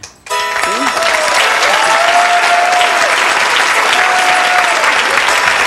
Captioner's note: holiday music; audience clapping